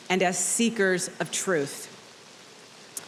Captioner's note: none